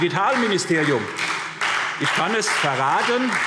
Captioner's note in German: Beifall SPD und Freie Demokraten